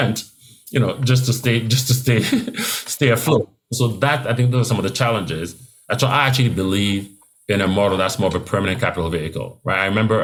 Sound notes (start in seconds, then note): 2.2 laugh